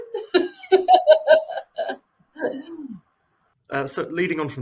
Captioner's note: laughing